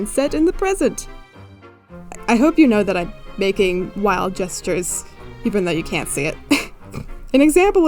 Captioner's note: wheeze